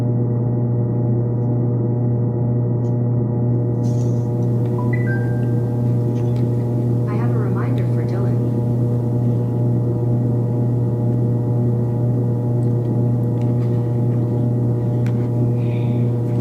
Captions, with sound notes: (phone notification going off) - [Phone Voice] I have a reminder for Dylan Coty.